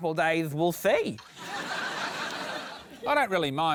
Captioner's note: laughter